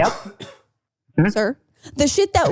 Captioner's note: coughing